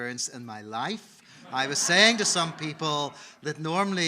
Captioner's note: audience laughing